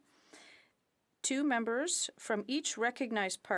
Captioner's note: speaking in French